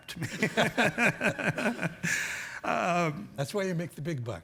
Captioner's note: laughing